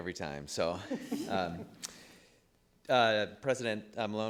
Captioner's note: people giggling